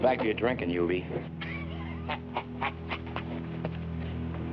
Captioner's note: laughing